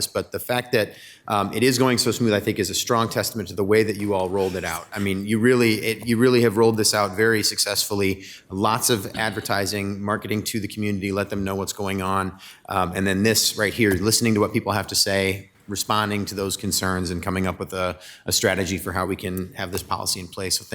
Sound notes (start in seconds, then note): 4.7 speaker chuckles